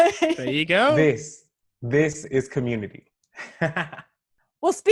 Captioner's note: laughs; laughs